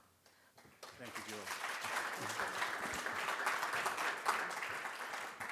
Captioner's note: audience applauding